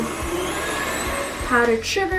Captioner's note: mixer buzzing